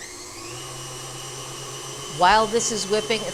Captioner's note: machine whirring